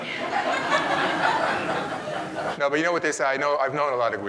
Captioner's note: audience laughing